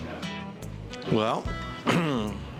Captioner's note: clears throat